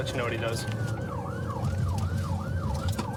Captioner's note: siren blaring